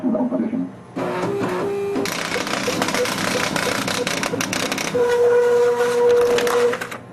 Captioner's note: machine printing